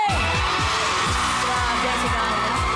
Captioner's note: crowd screams